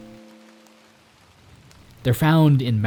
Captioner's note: rain pattering